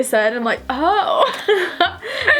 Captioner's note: laughing